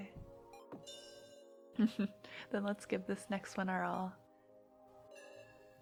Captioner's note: laughs